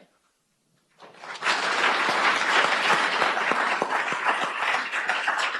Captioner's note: audience applauds